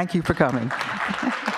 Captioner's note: applause